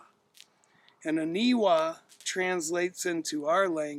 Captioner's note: speaking in foreign language